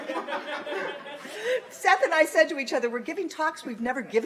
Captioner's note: laughter